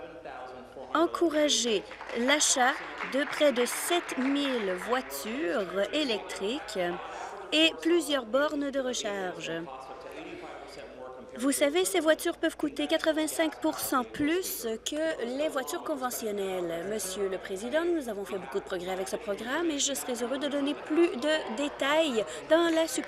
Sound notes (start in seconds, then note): 5.7 applause